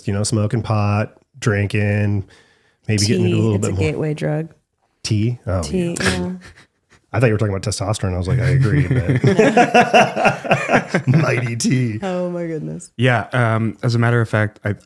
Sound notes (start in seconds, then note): 8.3 both laughing